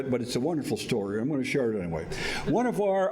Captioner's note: none